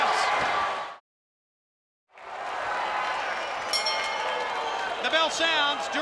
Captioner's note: applause